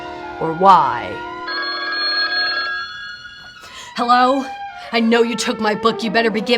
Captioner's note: ring